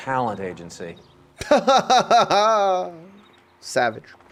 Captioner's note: fake laughs